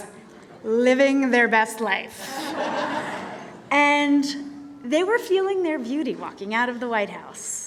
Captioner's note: laughter